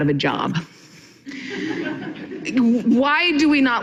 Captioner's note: audience laughing